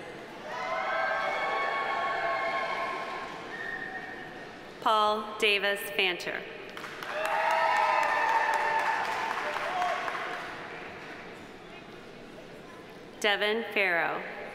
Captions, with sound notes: (audience applauding) (audience cheering) Paul Davis Fancher. (audience applauding) (audience cheering) Devin Farrow.